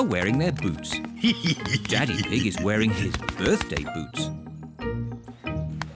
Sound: laughs

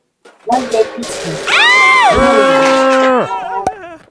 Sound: screaming

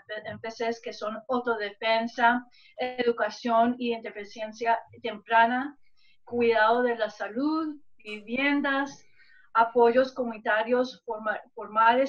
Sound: speaking spanish

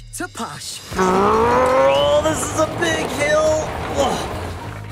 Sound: car revving

